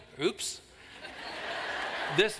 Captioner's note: laughter